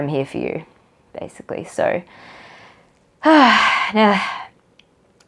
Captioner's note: sighs